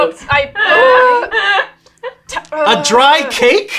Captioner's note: laughing